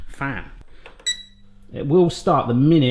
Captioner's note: beeping